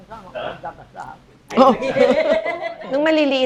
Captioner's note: laughs